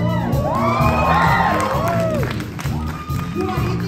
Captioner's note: applause